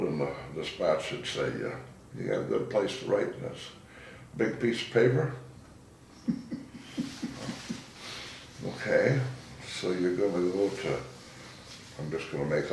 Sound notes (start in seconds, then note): 6.1 laughing